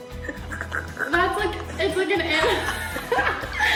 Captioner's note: all laugh